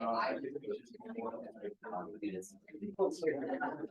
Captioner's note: ambient chatter